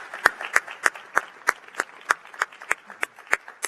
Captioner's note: applause